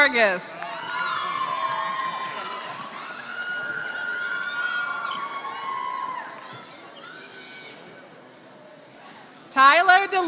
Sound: applause

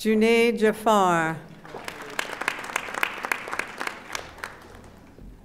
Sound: audience applauding

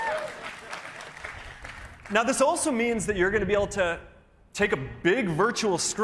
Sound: cheers and applause

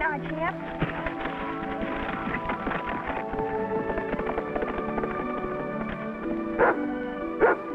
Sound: horse galloping; dog barking

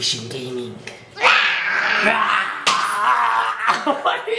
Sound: roars

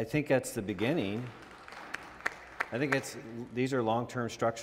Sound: audience applauds

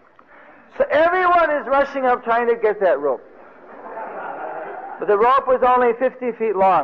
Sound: devotees laughing

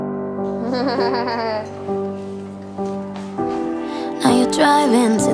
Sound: laughs

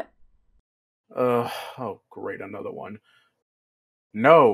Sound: sigh

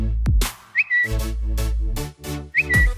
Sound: whistling; whistling

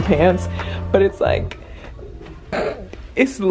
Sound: snorts

